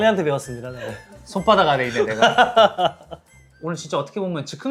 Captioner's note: laughs